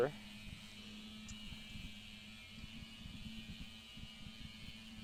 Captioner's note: sander running